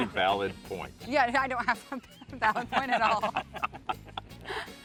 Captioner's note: giggles